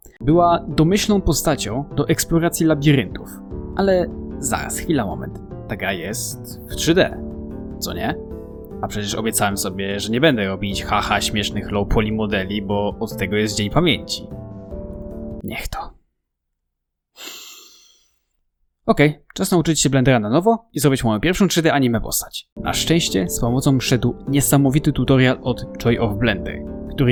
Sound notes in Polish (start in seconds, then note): 17.1 wdech